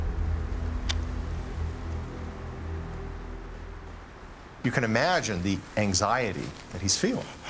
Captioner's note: cocks rifle